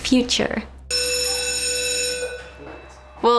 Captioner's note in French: Sonnerie de la cloche d’école